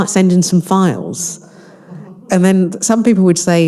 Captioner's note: audience laughing